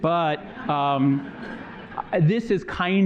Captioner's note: laughter